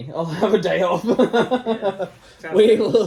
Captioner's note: laughing